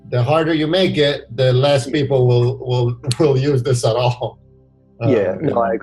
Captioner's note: laughs